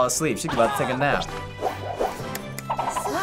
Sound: smacks hands

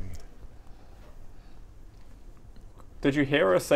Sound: flummoxed noises

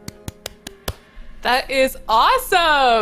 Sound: clapping

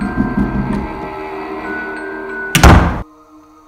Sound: door Slams Shut

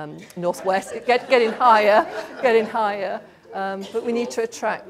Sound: laughter

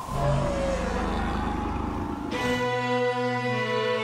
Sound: dragon roaring; violin's playing

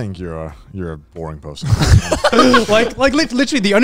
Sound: everyone laughs

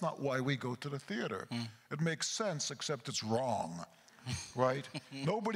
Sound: chuckles

